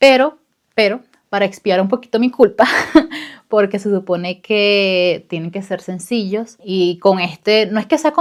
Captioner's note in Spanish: risas